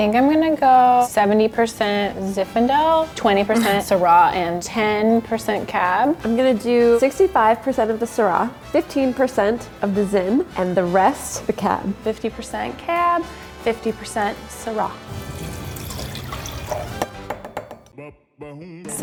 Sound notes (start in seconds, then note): 15.0 wine pouring; 17.2 glass tapping